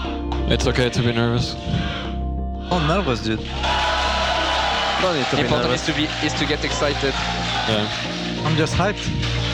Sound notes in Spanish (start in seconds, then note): 3.6 Aplausos